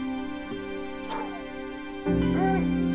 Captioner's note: groaning; exhale